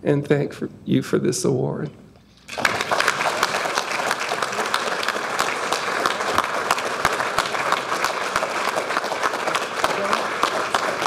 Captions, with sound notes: and thank you for this award. (audience applauding)